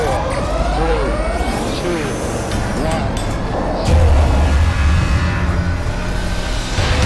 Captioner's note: explosion booming; dramatic music continues